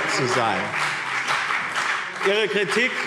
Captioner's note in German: Beifall BÜNDNIS 90/DIE GRÜNEN und CDU - Zurufe SPD